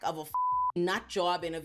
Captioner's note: beep